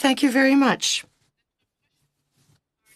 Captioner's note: speaking French